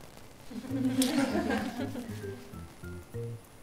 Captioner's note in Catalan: alumnes: riuen